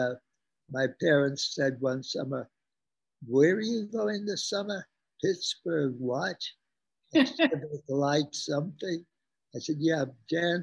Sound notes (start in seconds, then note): 7.2 laughs